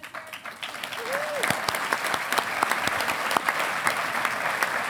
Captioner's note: audience applauding